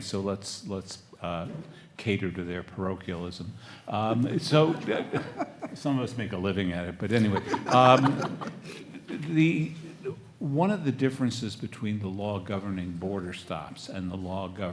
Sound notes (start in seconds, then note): 4.5 everyone laughs; 7.2 panelists laugh